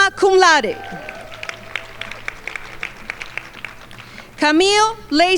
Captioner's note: crowd applauding